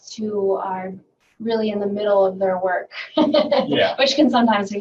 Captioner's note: laughing